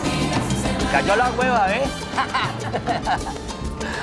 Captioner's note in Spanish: Ríe